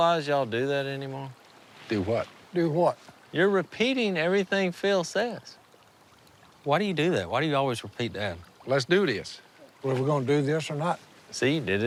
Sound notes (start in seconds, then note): none